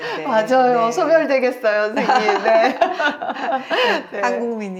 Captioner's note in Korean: 웃음